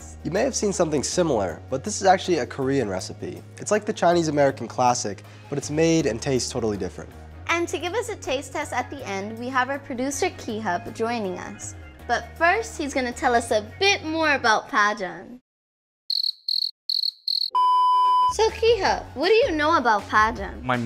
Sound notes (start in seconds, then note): 16.1 crickets chirping; 16.9 beeping